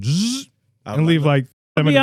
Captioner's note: imitates Engine